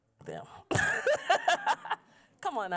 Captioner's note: laughs